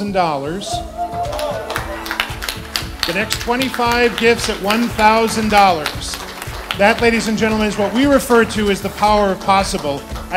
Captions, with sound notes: (cheering) to the next 25 gifts of $1,000. (clapping) That, ladies and gentlemen, is what we refer to as the power of possible